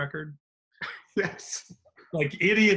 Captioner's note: laughs